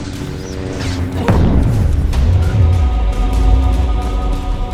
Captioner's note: Force push sonic reverb